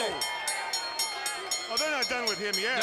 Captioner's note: bell ringing